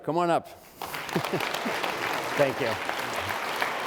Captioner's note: audience claps